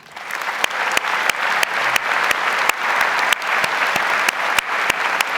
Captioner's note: audience applauds